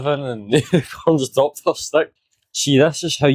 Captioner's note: Yak laughing